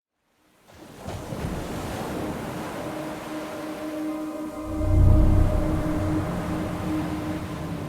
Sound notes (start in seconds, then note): 0.4 waves lapping; 0.6 light contemporary music